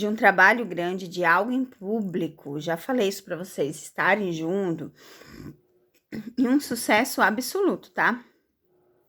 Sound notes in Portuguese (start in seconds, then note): 5.1 limpando a garganta